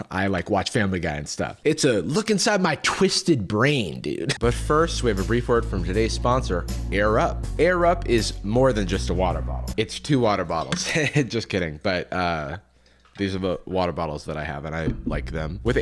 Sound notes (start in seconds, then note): 10.9 laughs